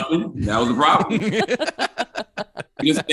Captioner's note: group laughs